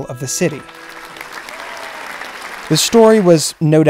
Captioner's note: crowd applauding